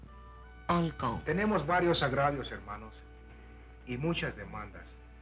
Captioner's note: Charley speaking Spanish